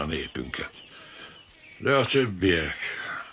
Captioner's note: sighs